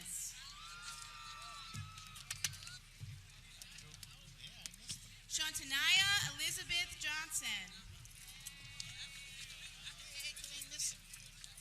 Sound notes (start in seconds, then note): 0.1 people cheering; 8.4 people clapping